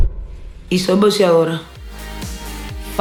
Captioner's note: speaking Portuguese